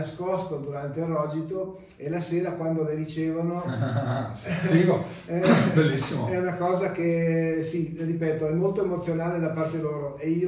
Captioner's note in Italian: risate